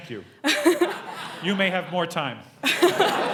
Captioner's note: laugh